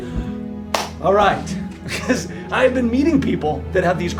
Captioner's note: claps